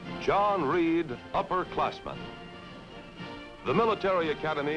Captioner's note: male Voice